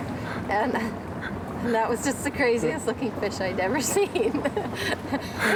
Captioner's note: laughs